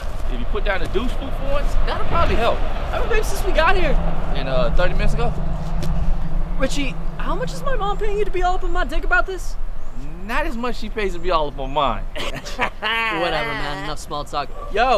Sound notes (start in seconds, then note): 12.1 laughs